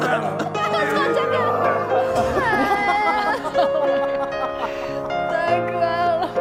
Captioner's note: brothers cry together